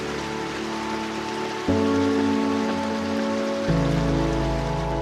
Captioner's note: water gurgling; serene music